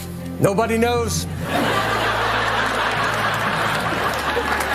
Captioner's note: audience laughing